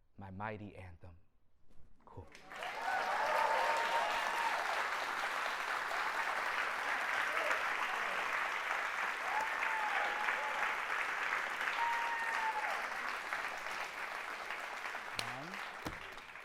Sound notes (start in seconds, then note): 2.3 cheering and applause